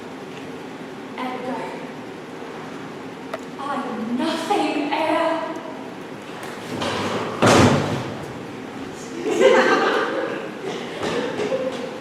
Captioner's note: brief laughter